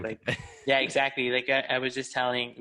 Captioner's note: laughs